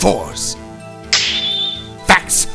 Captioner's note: snap!